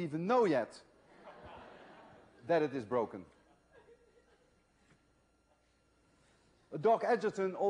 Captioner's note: laughter